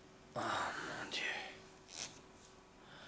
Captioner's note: whispering